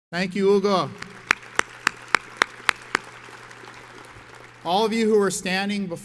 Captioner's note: audience applauds